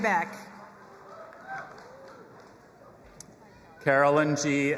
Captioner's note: audience cheering